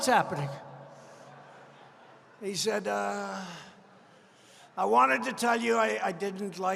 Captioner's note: laughter